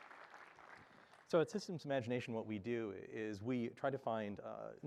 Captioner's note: applause